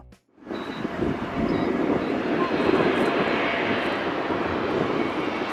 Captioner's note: airplane engines rumbling